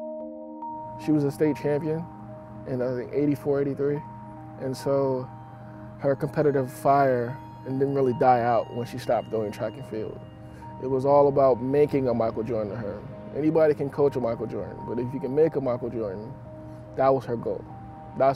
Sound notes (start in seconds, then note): 0.9 male Voice